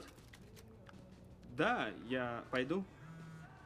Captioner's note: cellphone vibrates